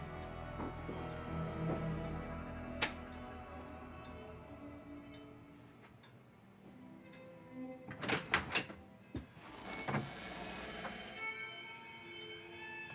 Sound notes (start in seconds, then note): 2.8 light clicking; 9.4 door creaking